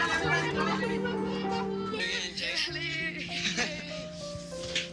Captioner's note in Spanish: Gritan al unísono